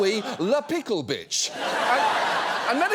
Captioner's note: audience laughs